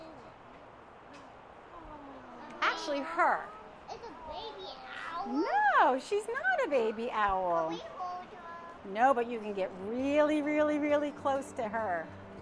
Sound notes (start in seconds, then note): 1.6 children cooing